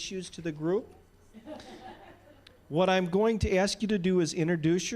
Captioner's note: distant laughing